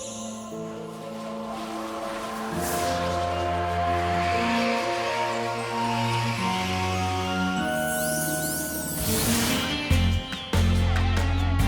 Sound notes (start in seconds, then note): 0.7 whoosh; 9.3 pop music